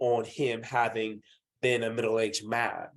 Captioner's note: none